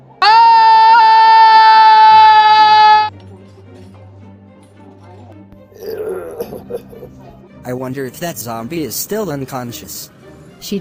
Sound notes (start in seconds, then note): 0.2 scream; 5.8 zombie babble